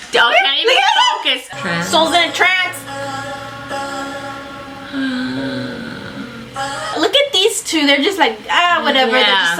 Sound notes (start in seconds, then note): 4.8 gasps